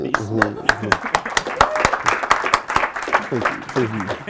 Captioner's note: applause